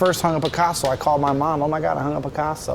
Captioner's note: hammer taps